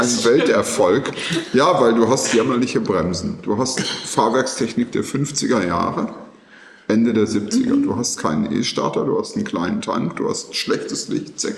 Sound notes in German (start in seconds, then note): 0.0 gelächter; 3.7 räuspern